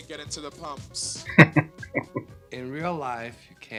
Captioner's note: chuckling